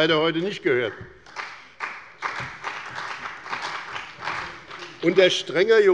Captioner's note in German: Beifall bei dem BÜNDNIS 90/DIE GRÜNEN und der CDU